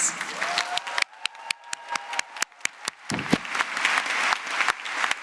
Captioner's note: applause